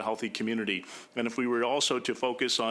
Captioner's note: speaking French